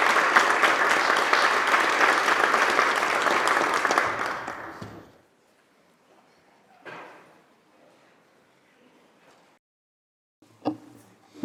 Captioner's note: applause